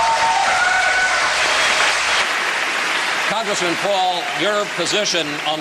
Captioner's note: cheers and applause